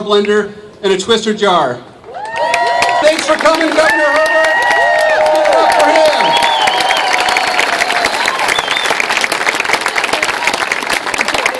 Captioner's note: cheers